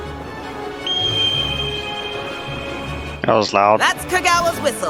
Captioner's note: whistle Blows